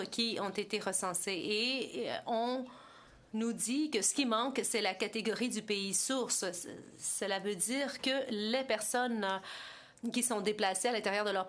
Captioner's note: speaking French